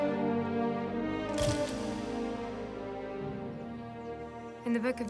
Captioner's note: camera clicks